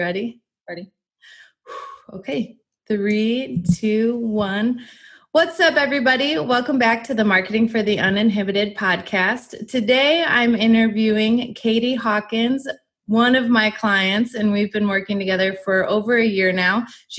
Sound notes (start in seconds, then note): 1.3 exhales deeply